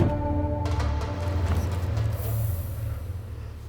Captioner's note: door slam; wind blows